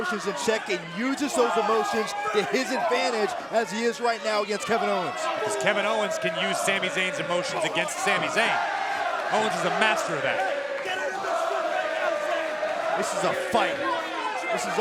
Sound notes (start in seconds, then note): 10.9 crowd cheering